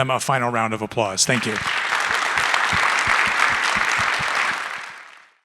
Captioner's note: audience applauding